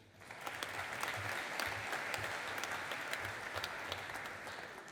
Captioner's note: audience applauding